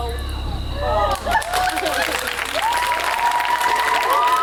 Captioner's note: audience applauds; audience cheers